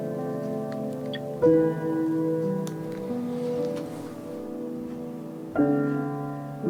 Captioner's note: button clicks; camera beeps